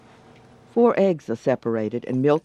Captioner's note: voiceover